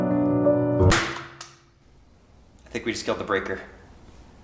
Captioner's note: loud snapping